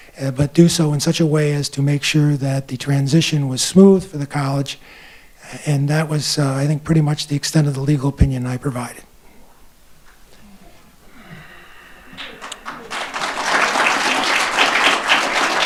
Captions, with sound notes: but do so in such a way as to make sure that the transition was smooth for the college. And that was, I think, pretty much the extent of the legal opinion I provided. (exhales) (audience applauding)